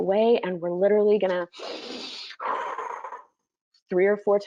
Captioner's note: breathes loudly